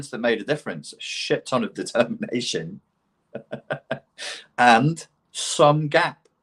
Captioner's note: laughs